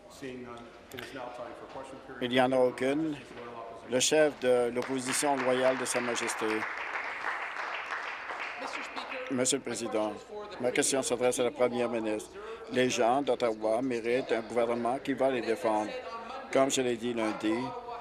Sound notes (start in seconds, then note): 8.9 applause